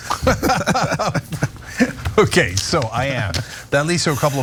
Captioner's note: laugh